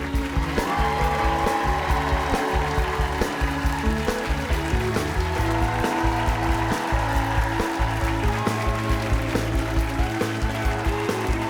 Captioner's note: cheers and applause